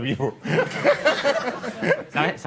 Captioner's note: laughter